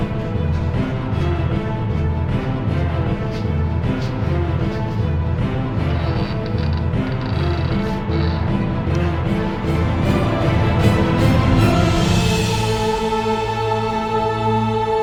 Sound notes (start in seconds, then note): 5.8 creak, door opens